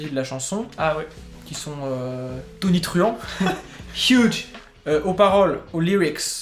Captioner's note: laugh